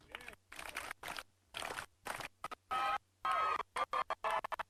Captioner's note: people applauding